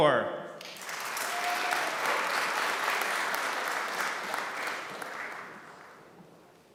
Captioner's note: applause